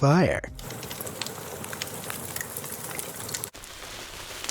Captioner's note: fire crackles; bubble wrap rustles, crackles